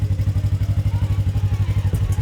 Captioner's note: sxS starting up